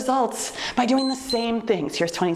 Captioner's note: timer beeps